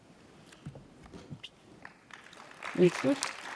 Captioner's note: participants clap